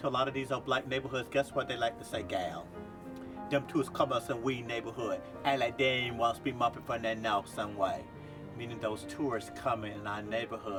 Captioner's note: speaking Gullah